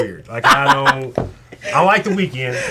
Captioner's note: laughing